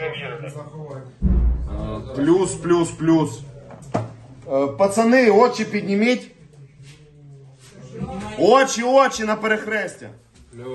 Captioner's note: drone